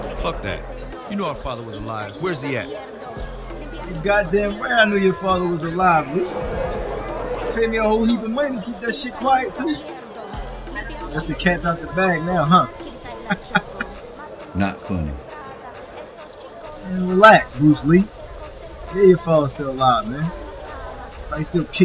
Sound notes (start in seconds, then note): 13.1 man in shadows laughing